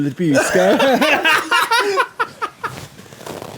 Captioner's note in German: lachen